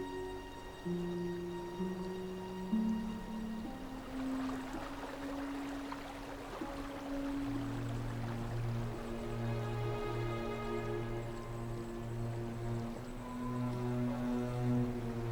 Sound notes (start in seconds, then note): 4.7 water streaming; 9.9 dark melancholy music